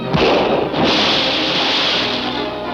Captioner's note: water splashing; funky music continues